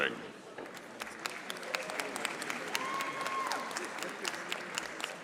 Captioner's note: audience applauding